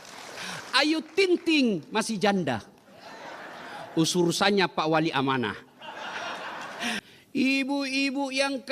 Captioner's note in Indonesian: tertawa